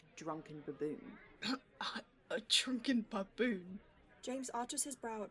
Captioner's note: James chokes, half-way between laughter and indignation